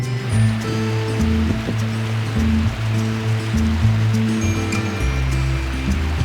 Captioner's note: upbeat music; water rushing